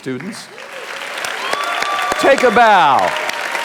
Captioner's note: audience applauding